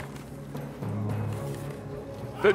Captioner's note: envelope opens